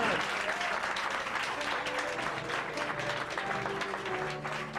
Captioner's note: guests applauding